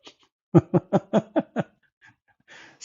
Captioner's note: Ketawa